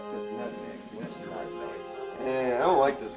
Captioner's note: players chattering